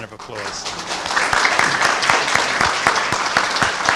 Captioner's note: everyone clapping